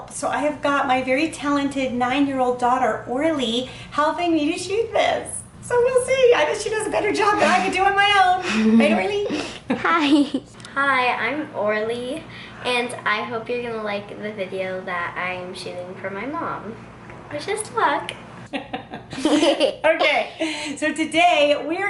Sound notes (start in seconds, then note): 18.6 laughs